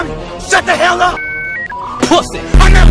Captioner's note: dialup noises